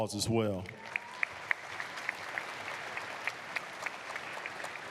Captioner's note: applause